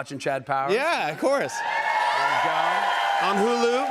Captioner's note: cheers and applause